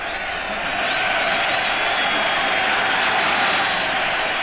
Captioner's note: crowd roars